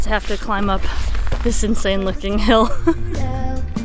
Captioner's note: laughs